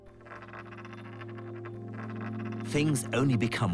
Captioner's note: coin clatters